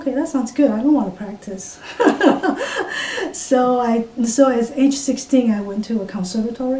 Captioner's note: laughs